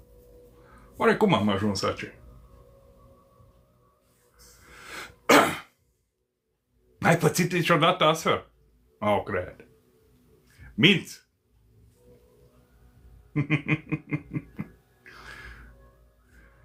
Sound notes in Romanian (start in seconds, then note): 13.3 Râsete